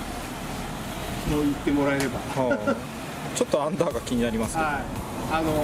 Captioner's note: laughs